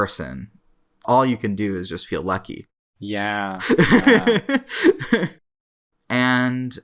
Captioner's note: laughs